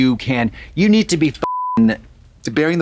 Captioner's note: beep